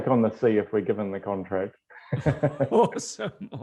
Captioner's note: laughs